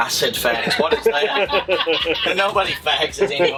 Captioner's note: laughter